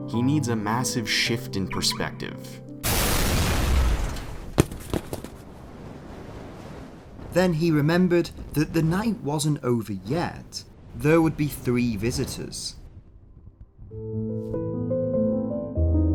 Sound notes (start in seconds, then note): 1.8 car alarm chirps; 2.8 explosion booms